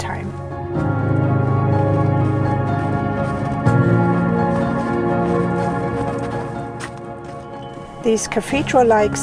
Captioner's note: music and sound of crunching snow while walking